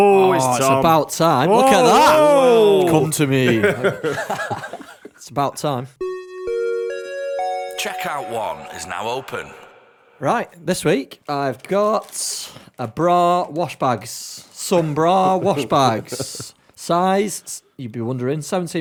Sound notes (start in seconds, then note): 6.8 chime